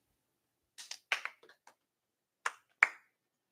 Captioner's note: clapping